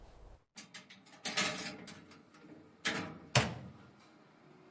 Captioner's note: metallic scraping and clacking